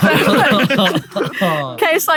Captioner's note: panel laughing